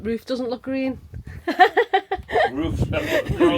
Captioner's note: laughing